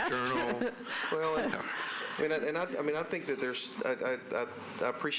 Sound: laughter

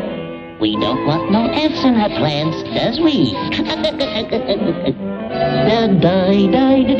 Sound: laughs

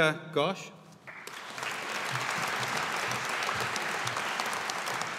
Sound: audience applauding

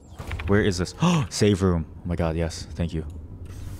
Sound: gasp

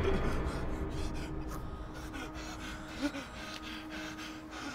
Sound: Nicky pants

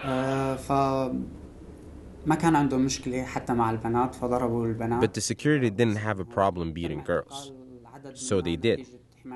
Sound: through translator

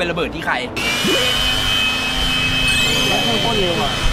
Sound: wind flowing

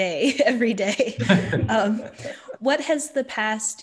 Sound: laughing; chuckles

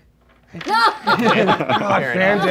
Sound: laughing

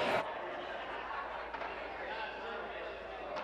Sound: applause

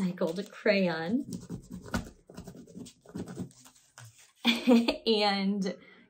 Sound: crayon scribbling

